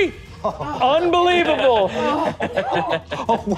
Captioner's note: players laughing